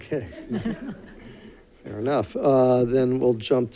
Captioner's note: laughs